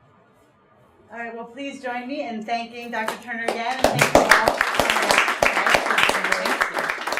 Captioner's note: audience applauds